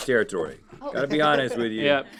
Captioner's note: laughing